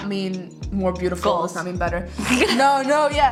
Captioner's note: laughs